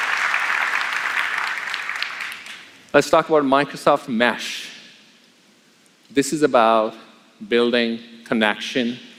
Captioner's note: applause